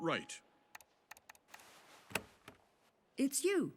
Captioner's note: footsteps approach